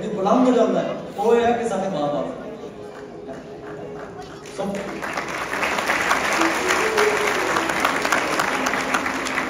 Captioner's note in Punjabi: ਤਾੜੀਆਂ